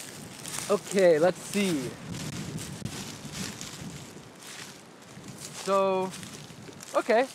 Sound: rustling sounds

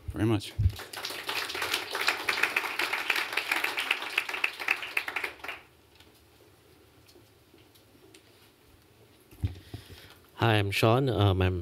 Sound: applause

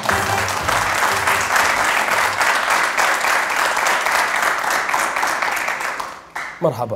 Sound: clapping

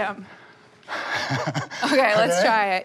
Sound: laughs

